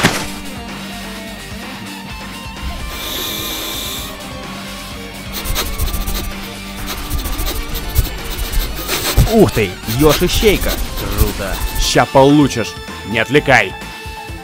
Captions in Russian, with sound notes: (звук глубого вдоха) (звуки нюханья) Ух ты! Ёж-ищейка! Круто. Щас получишь! Не отвлекай!